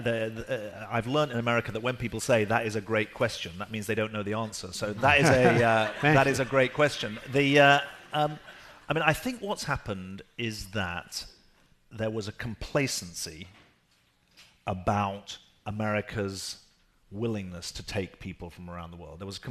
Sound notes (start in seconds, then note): 7.1 laughing